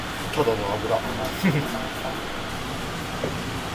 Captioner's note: laughs